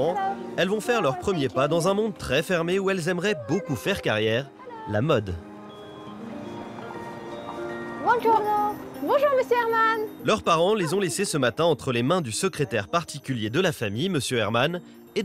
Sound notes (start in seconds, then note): 8.0 in Italian